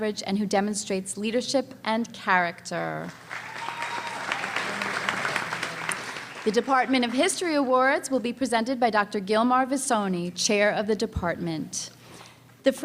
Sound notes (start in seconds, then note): 3.1 cheering and applause